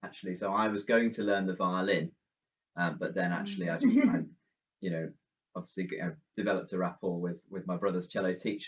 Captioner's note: laughs